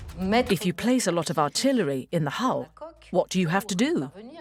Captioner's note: voiceover